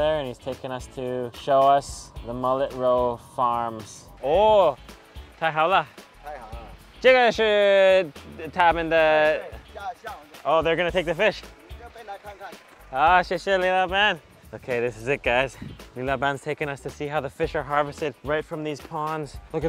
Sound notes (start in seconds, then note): 4.3 speaks in foreign language; 6.0 driver speaks in foreign language; 6.8 speaks in foreign language